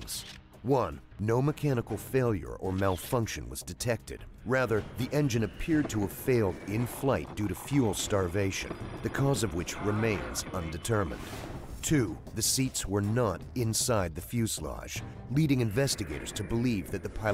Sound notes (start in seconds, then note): 8.1 voiceover